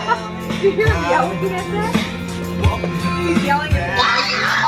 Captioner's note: yelling